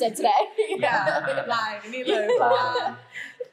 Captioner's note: explaining in Thai